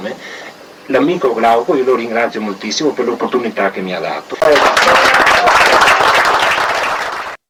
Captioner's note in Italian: Applauso